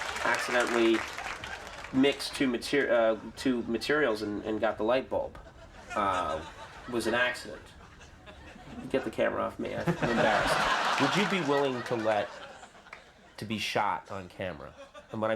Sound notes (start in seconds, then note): 10.4 laughing